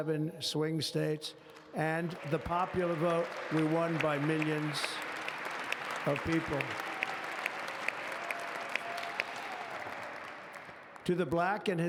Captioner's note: applause